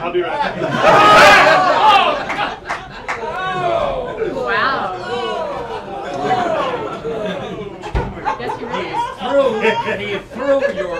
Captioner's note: laughter